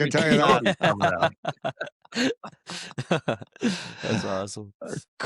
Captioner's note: laughs